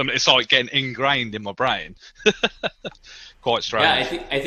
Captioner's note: laughs